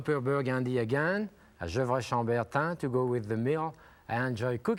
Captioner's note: speaking in French